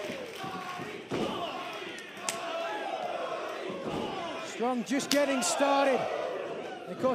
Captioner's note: crowd cheering